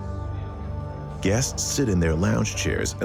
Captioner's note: people chatting